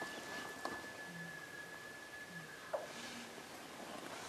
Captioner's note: distant elk bugling